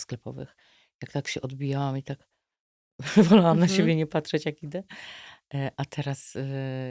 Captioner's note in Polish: śmiech